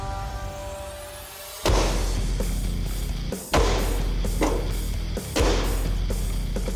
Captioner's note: blade impact sounds